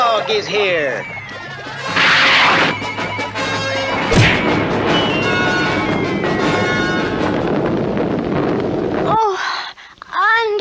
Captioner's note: smack!